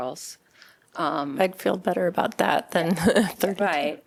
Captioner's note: laughter